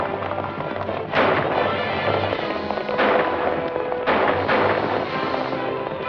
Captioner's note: intense music; gunshots